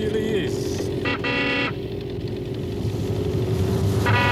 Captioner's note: car horn